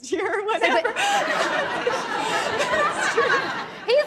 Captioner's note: laughs; audience laughs